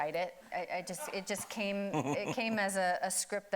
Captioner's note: chuckling